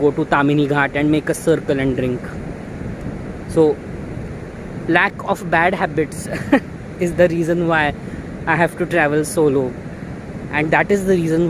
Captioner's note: sniggers